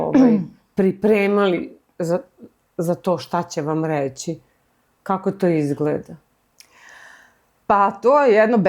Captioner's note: he coughs